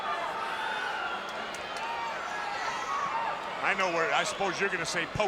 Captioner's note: spectators cheering